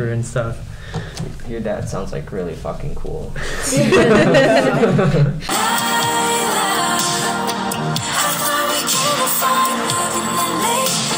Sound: laughs

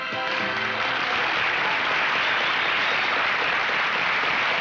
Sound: audience applauding

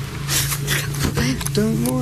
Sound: gasp

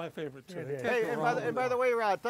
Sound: chattering

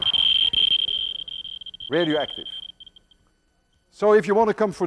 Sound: rapid high-pitched beeping

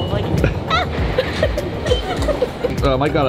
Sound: laughs

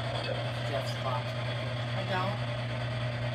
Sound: spirit box scanning

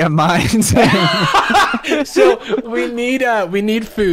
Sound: laughs

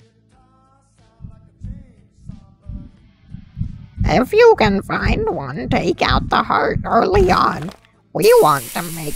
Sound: creepy Heartbeat

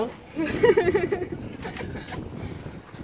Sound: laughs

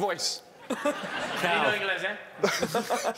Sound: laughing

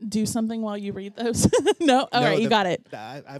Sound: laughs

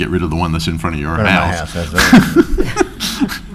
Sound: laughs

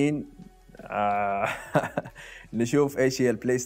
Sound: laughs

